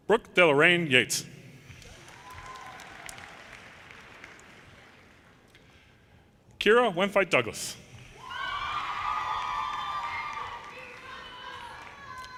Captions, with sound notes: Brooke de Loraine Yeatts, (audience applauds) Kira Wenfei Douglass, (audience cheers)